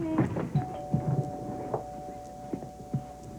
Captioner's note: doorbell rings